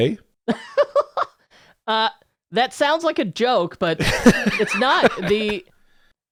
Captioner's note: laugh